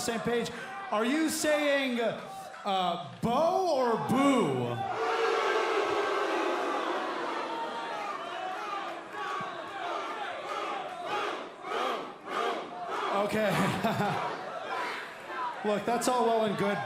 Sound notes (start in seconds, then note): 3.7 crowd cheering